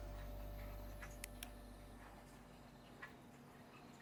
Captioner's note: flashlight clicks